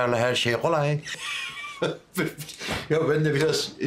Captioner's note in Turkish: Gülme sesi